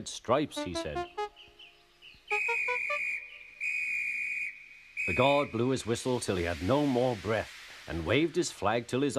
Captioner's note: the guard's whistle blowing